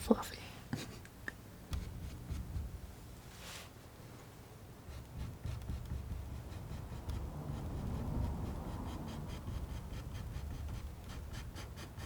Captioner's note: scratching